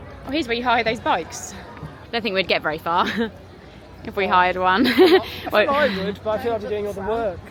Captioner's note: laughter